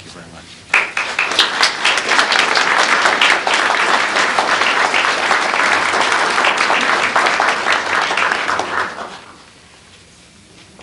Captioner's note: applause